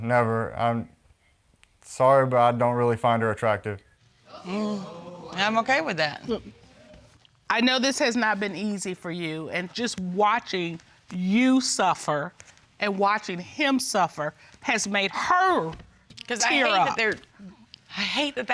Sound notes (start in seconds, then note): 4.3 audience exclaims